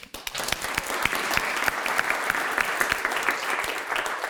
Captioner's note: audience clapping